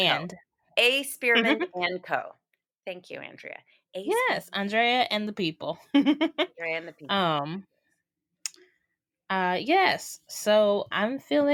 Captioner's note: laughter